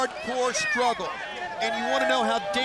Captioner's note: crowd chatter